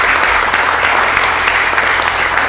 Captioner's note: applause